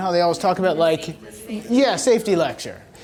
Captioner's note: voiceover